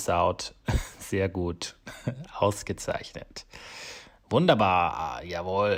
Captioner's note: speaks in foreign language